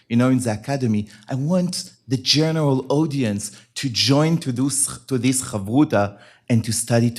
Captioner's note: hebrew